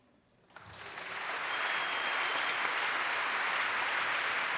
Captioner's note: applause